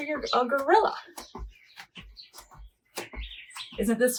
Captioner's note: shoes clacking